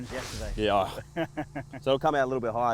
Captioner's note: laughing